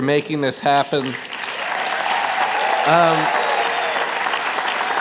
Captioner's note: applause